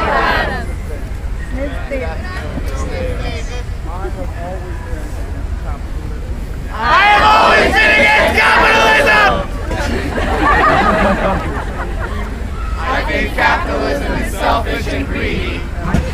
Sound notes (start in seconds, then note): 6.7 somebody in crowd yells; 9.7 some laughter